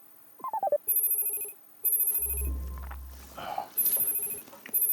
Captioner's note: phone ringing